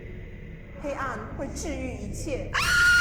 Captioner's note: Mandarin language; Keo’s terrified scream